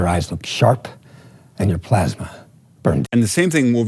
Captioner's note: movie dialogue plays